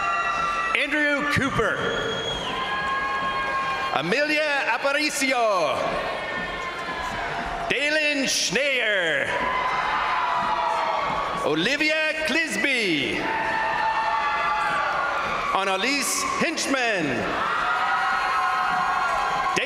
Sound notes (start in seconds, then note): 0.0 crowd cheering; 2.0 crowd cheering; 5.9 crowd cheering; 9.5 crowd cheering; 13.3 crowd cheering; 17.5 crowd cheering